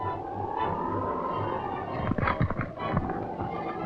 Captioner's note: wind howling